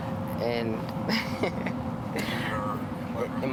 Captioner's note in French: Rires